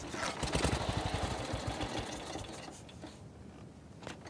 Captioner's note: engine sputtering